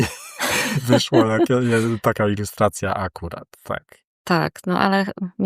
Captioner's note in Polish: śmiech